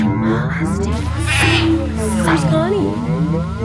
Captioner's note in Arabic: صرخات الأغنام